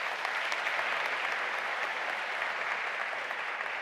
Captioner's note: audience applause